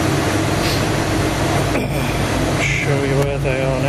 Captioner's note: sniffing, clearing throat